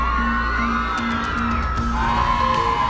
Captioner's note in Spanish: fanáticas aclamando